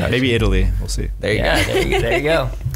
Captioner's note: laughs